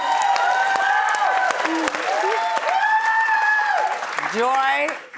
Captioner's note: audience cheering; audience applauding